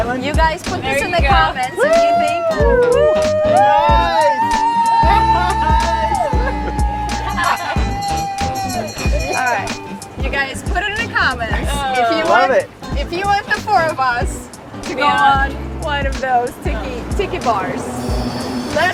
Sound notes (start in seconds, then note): 2.3 people cheering; 3.1 bell rings